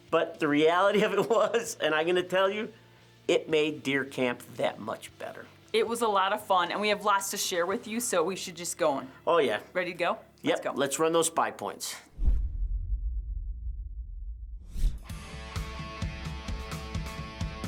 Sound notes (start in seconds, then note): 12.1 logo whooshes; 15.1 upbeat music